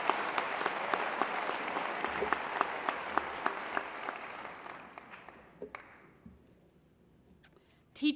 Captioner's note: applause; cheers